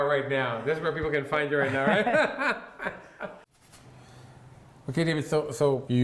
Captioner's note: laughs